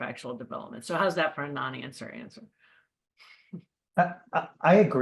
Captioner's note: laughs